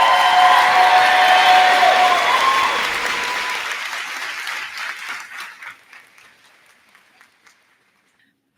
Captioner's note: cheers and applause